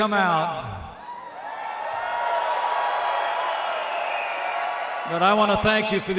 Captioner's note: applause